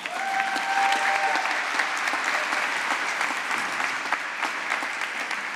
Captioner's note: applause